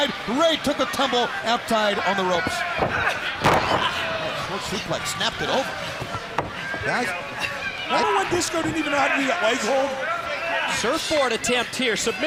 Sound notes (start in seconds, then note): 2.3 crowd chatter; 7.9 crowd chatter